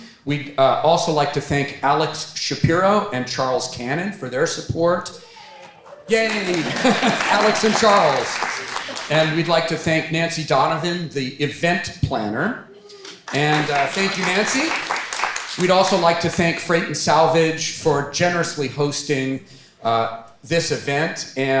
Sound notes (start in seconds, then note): 5.2 chuckles; 7.3 audience applauding; 12.9 audience applauding